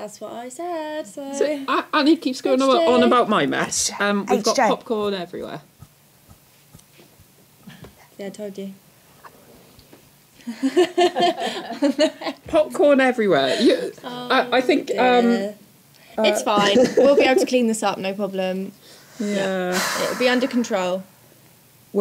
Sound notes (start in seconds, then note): 10.5 laughs; 19.2 sighs